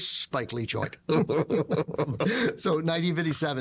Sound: both laughing

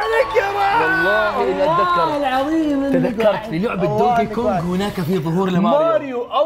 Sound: shouting and cheering

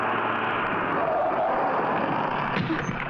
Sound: brakes squeal

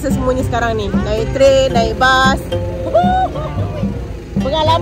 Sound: laugh

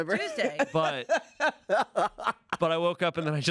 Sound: laughs

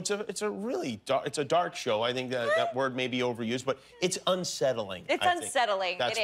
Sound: laughter

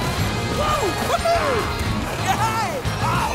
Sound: cheering

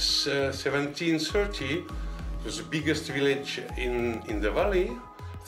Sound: none

